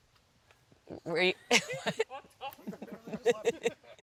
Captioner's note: all laughing